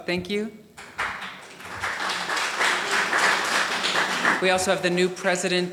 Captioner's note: audience applauding